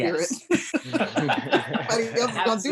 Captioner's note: laughs